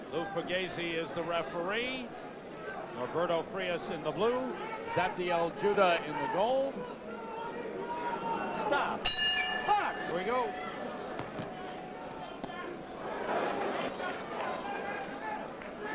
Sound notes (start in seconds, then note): 9.0 bell rings